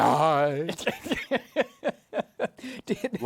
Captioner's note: laughs